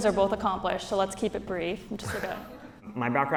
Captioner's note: audience laughs